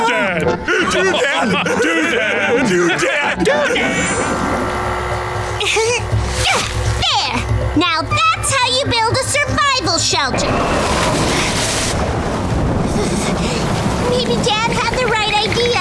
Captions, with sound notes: Hey, Do Dad. [laughing] -Do Dad. -Do Dad. Do Dad. [grunting] There. Now that's how you build a survival shelter. -[strong winds gusting] -[thunder rumbling] Maybe Dad had the right idea.